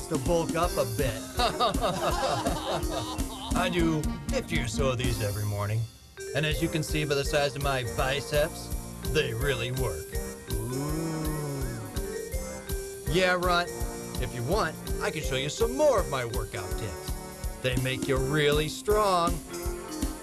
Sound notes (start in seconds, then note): 1.3 laughter; 11.3 wolf whistle